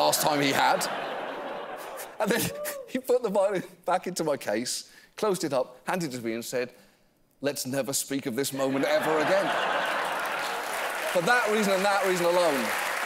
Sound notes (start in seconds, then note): 8.6 laughter; 9.6 applause